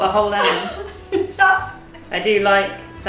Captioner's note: laughing